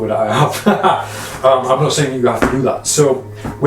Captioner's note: laughs